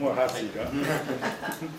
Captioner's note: laughter